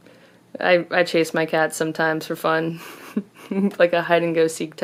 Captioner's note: laughs